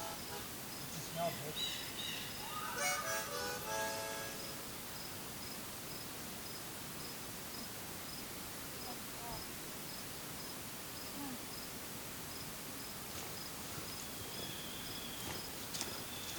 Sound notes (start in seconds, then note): 3.2 forest sounds, bird calls